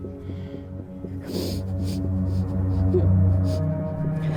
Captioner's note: Stef sobbing